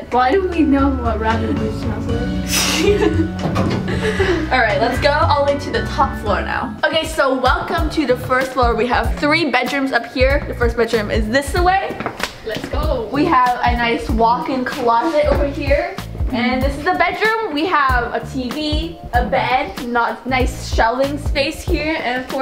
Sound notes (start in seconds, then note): 2.4 laughing